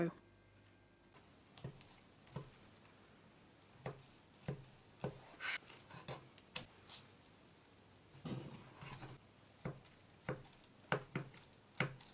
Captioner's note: chopping and slices sounds of knife against the wooden board